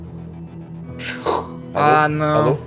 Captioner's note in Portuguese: chiado